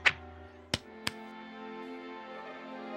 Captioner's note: pat pat